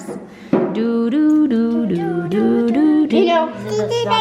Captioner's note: family hums